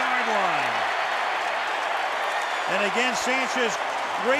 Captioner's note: cheering